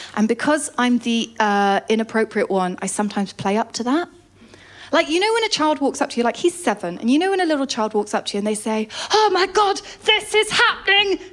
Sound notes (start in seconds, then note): none